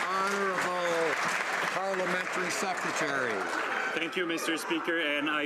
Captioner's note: some Applause